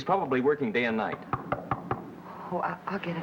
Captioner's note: knock on door